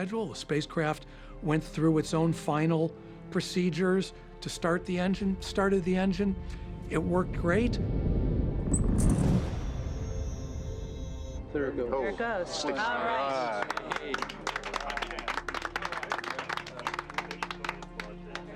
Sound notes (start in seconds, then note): 8.0 low rumbling; 13.4 team clapping